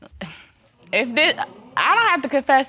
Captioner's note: sighs